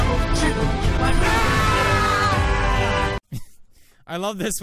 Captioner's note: Jackspedicey screaming